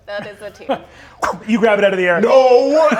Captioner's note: whooshes